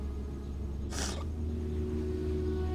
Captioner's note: sobbing